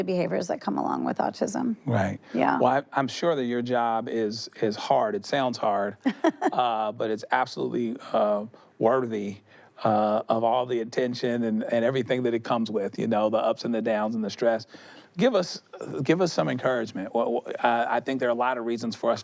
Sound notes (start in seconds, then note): 6.0 she chuckles